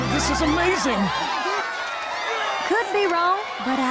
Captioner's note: cheering